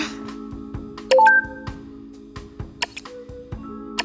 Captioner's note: beeping; soft music